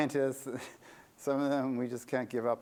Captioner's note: laughter